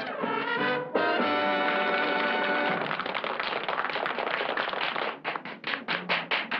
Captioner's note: applause